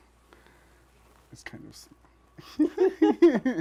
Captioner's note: laughter